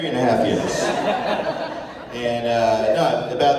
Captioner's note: laughter